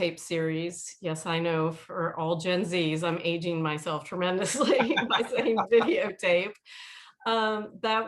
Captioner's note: laughter